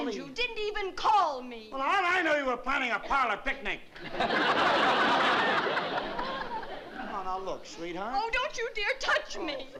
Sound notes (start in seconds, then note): 4.0 laughter